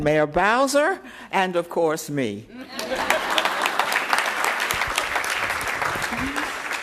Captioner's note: applause